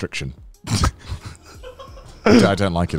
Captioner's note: laughs